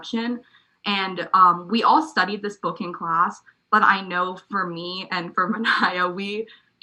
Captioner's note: laugh